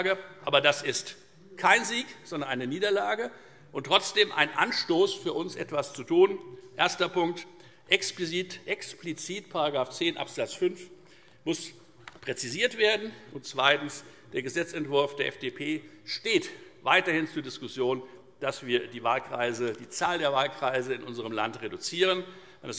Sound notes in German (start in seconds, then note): none